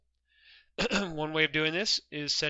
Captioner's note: clears throat